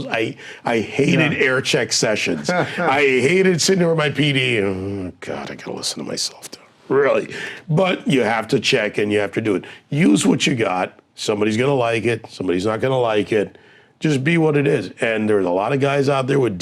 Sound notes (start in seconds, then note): 2.3 chuckling; 4.9 groaning